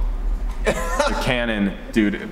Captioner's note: laughing